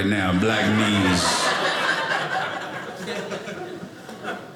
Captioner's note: audience laughing